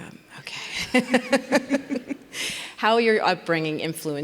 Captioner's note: laugh